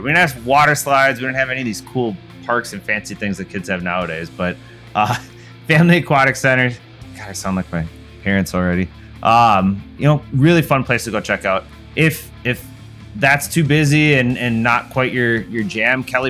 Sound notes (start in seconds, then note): 4.9 laughs